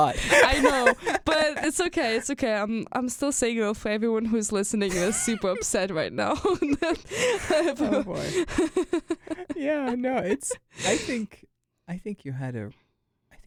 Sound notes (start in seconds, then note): 6.2 both laugh